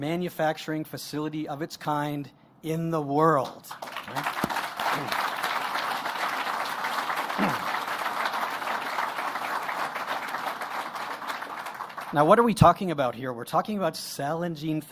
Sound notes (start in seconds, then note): 6.5 applause